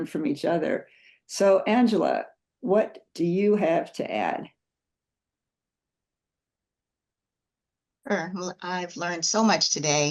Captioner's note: pause